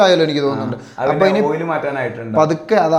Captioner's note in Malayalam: തൊണ്ട ശരിയാക്കുന്നു